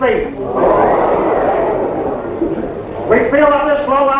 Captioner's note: men chattering